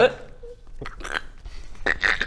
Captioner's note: crunch; crrck